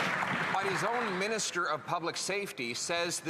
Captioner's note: applause